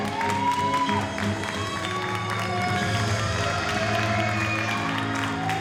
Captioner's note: audience cheers and applauds